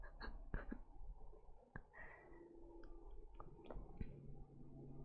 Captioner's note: laughs